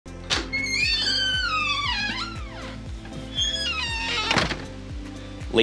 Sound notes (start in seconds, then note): 0.2 meditative music; 0.2 door squeaking; 3.4 door clicks